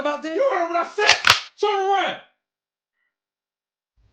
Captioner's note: gun Cocking